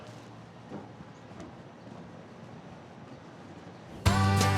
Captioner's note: footsteps